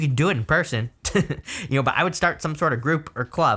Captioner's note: laughs